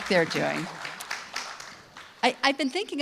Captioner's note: audience clapping